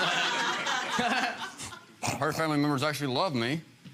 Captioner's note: laughing; audience laughing